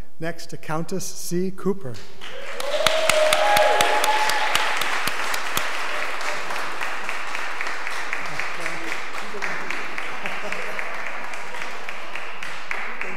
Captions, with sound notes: Next to Countess C. Cooper. (audience applause)